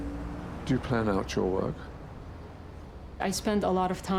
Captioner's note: voiceover